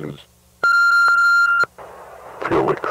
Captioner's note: phone bleeps